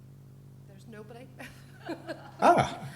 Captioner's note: laughs